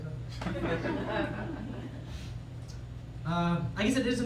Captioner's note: laughter